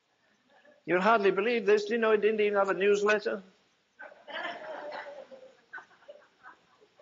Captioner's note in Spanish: risas